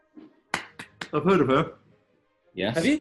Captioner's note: applauds